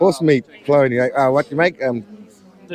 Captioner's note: laughing